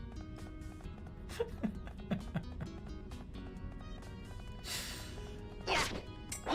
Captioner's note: continues giggling